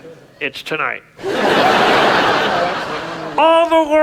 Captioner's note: audience laughs